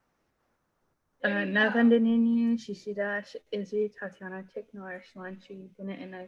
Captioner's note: speaking in foreign language